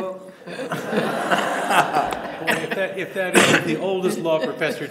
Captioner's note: audience laughing